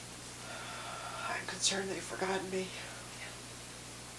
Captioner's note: exhaling